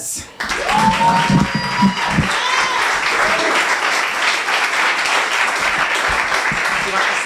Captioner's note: applause